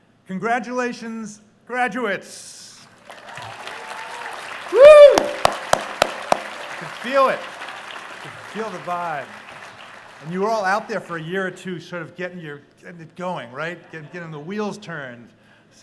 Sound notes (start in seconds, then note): 3.0 cheering